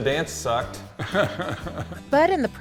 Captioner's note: chuckles